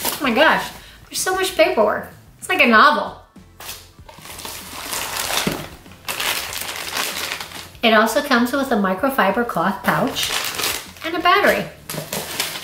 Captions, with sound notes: Oh my gosh, there's so much paperwork, it's like a novel. (paper rustling) It also comes with a microfiber cloth pouch and a battery.